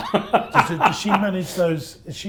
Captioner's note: laughs